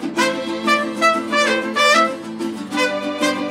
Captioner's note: none